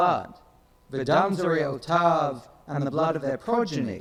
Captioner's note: speaks in foreign language